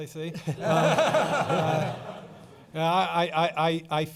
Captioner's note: laughing